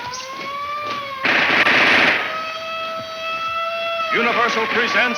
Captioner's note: siren blaring; guns firing